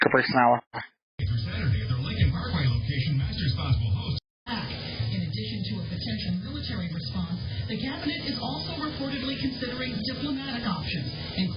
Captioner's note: "21Alive News at 4" plays in background